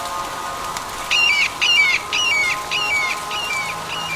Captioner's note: bird screeching into the distance